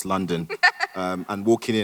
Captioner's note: Ridley laughs